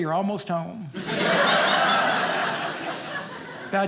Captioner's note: audience laughing